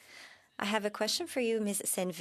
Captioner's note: speaking French